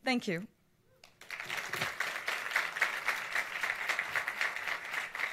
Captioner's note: audience applauds